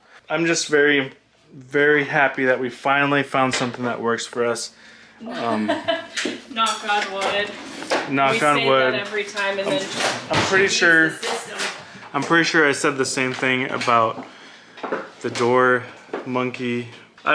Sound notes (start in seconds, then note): 5.2 laughs